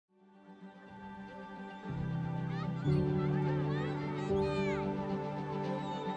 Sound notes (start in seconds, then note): 0.2 peaceful music; 0.6 kids chattering indistinctly